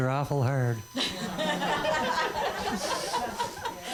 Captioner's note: laughter